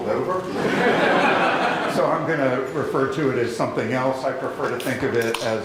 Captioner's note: laughter